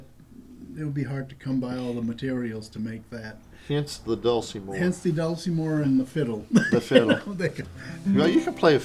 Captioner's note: laughter